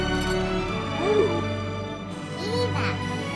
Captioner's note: gasps